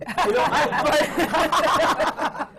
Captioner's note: laughter